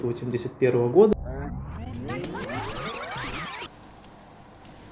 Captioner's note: tape rewind sound